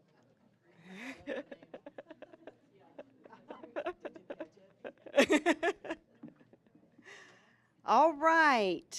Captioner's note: laughing